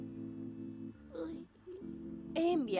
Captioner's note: moaning